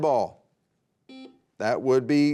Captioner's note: buzzer beeping